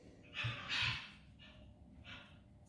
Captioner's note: in the background sounds of macaws